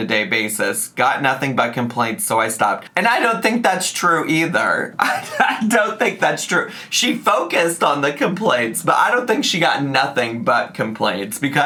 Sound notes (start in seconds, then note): 4.9 laughs